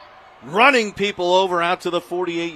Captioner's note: applause